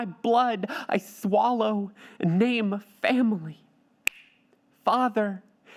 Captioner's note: finger snaps